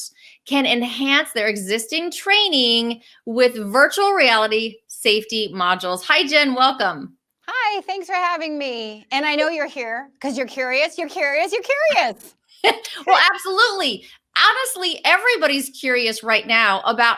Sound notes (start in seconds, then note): 12.6 laughing